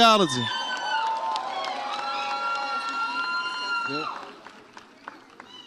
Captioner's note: audience applauds and cheers